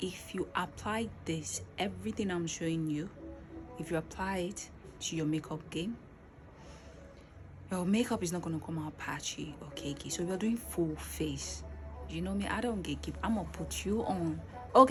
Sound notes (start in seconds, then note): 6.5 deep breath